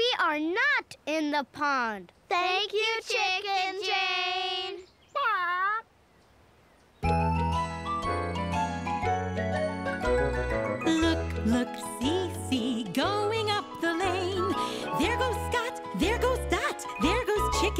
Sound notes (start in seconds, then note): 4.1 squawks sadly